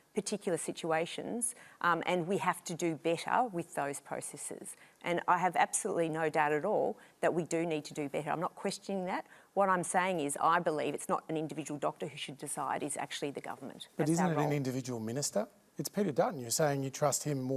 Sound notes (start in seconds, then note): none